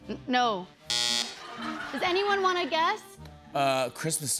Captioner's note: buzzer; laughter